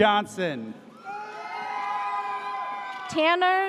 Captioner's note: audience cheers